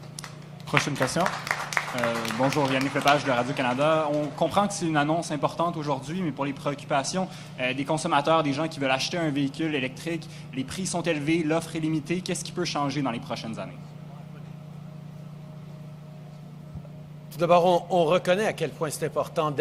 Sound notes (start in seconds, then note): 1.6 applause; 5.4 speaks French; 19.3 speaks French